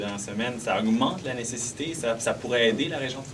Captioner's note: speaking french